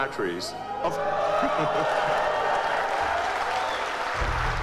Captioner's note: audience cheering